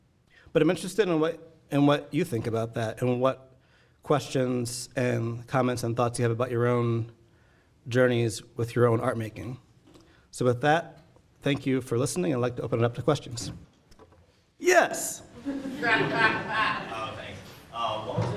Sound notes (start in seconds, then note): 15.3 audience laughing